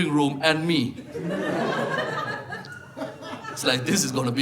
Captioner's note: audience laughing